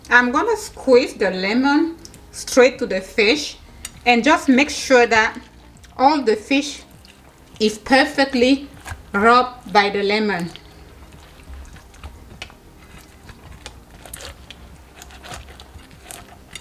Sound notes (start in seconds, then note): 11.1 lemon squishing